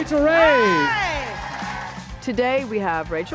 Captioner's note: crowd cheers